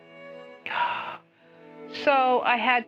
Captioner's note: frustrated sigh